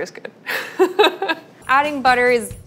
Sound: laughing

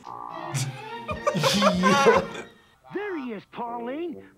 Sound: both laugh

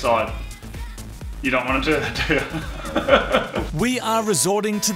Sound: laughs

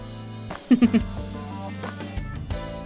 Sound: chuckles

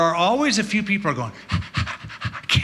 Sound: panting

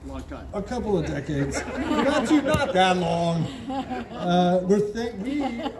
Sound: crowd chuckles

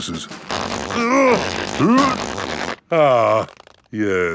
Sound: grunting

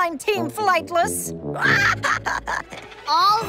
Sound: laughing

